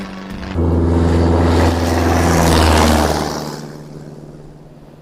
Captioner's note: Engine roars